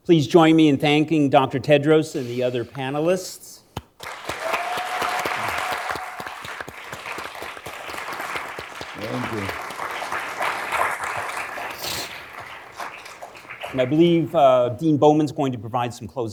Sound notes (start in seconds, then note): 4.0 everyone applauding; 4.0 attendees cheering; 10.0 attendees applauding